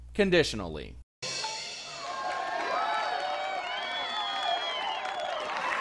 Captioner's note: applause and cheering; drumming